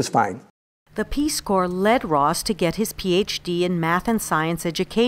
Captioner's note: voiceover